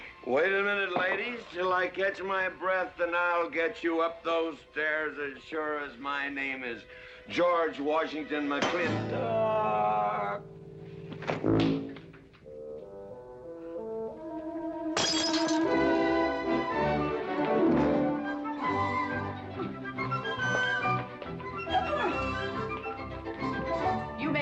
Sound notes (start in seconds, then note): 8.6 whack; 11.2 thud; 15.0 smash